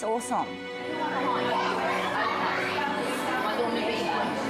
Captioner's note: people chattering